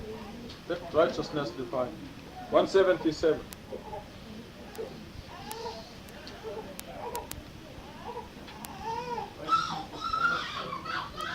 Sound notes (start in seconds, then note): 5.1 crying